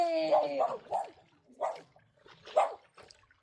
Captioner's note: dog barking